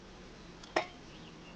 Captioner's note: metal clang